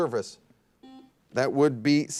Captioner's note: buzzer dings